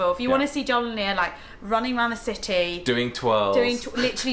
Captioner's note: laughs